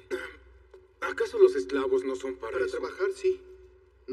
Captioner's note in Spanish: Carraspea